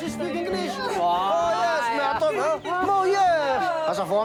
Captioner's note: Malagasy spoken audio